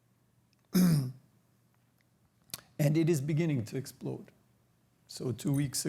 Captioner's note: clears throat